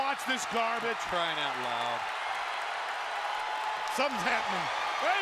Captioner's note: audience cheering